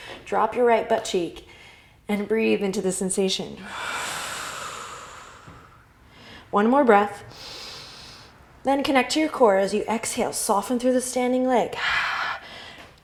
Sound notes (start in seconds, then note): 3.6 deep exhale; 7.3 inhale; 12.2 exhale